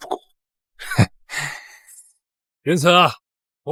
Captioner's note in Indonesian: menghela napas